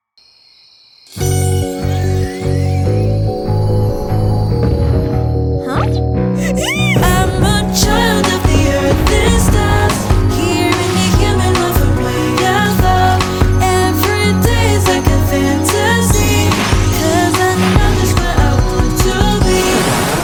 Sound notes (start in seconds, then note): 3.3 magic whirring; 6.4 excited squealing